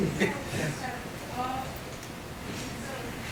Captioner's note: laughing